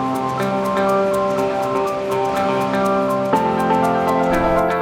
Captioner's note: water splashing; robot whirring